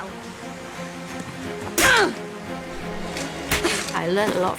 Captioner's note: grunts